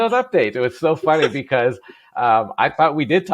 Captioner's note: laughs